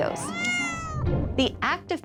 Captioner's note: cat meowing